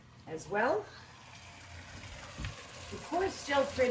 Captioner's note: pot sizzling